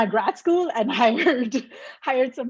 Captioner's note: laughs